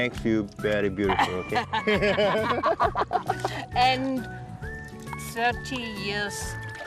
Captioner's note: laughter